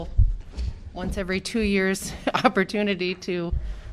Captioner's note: laughter